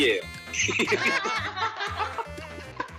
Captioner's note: laughing at his own idea